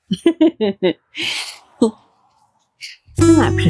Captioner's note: laughter